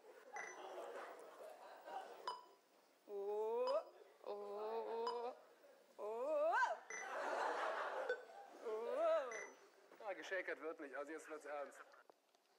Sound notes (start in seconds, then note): 2.2 amusing vocal sounds.... audience laughter